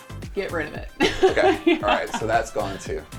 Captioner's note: laughs